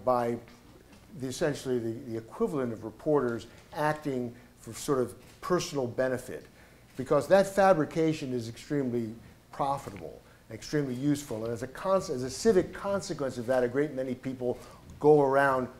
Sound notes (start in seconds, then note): none